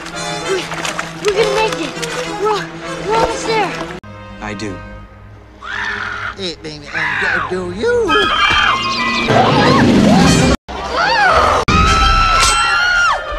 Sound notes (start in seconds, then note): 5.6 Scuttle is reborn and screams for joy